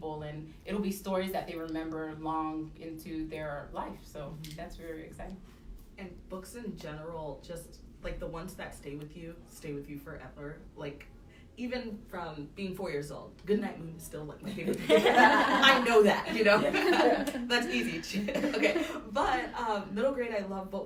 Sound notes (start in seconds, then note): 14.5 laughter